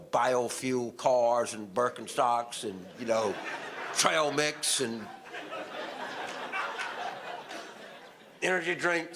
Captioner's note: audience laughter